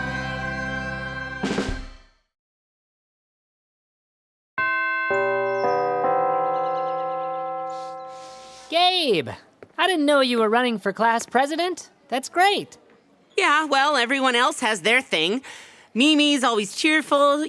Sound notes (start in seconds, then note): 4.6 bell chimes